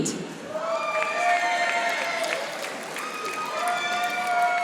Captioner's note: audience applauding